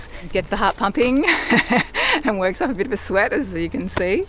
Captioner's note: laughs